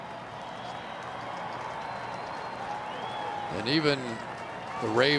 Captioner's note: crowd cheering